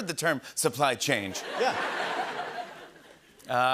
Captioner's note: laughter